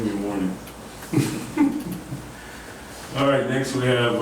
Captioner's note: chuckling